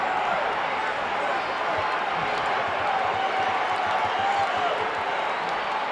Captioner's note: audience chattering continues